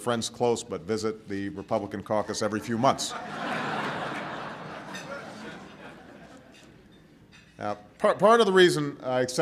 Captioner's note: laughter